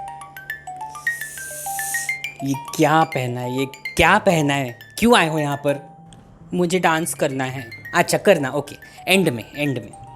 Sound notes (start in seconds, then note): 0.9 winces